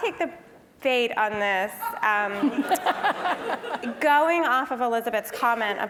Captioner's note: laugh